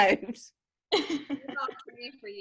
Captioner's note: laughs